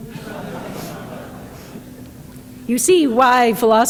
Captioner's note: audience laughing